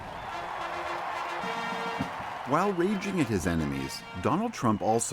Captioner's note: cheering and applause